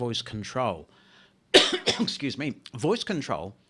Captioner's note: coughing